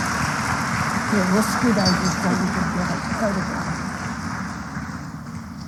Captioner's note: applause